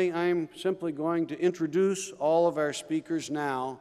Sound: none

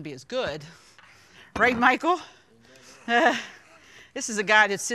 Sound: laughs

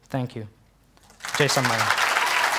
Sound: applause

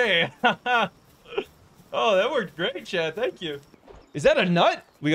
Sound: laughing

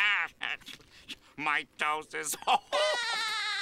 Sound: chuckles; SpongeBob laughing; chuckles

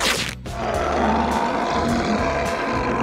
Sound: growling

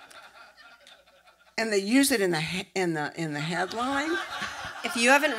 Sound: laughter

